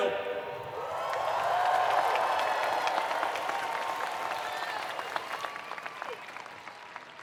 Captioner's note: attendees cheering; attendees applauding